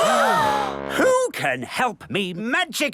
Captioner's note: all gasp